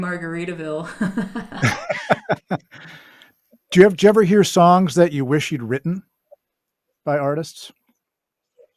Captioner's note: laughs